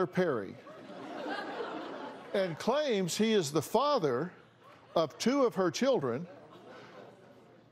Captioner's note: laughter